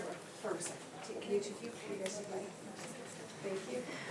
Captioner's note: speaks faintly